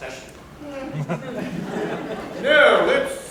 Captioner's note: laughter